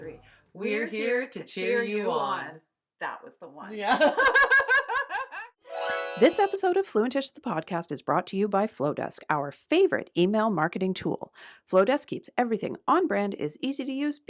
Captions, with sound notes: We’re here to cheer you on. THAT was the one. (laughs) *chime sound* This episode of Fluent•ish the Podcast, is brought to you by Flodesk - our favourite email marketing tool. Flodesk keeps everything on-brand, is easy to use,